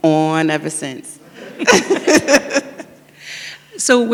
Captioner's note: everyone laughs